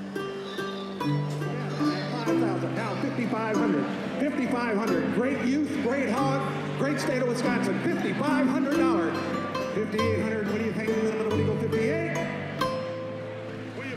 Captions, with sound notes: Fifty-eight hundred, fifty-eight. We appreciate it. Congratulations, young man, good to see you. ( crowd applauds )